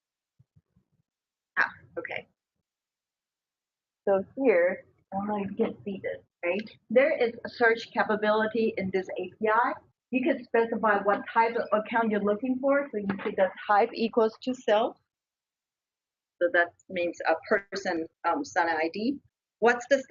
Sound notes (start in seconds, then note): 5.2 audio warps